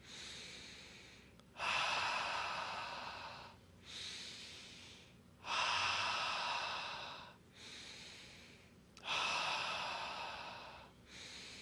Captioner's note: inhales and exhales four times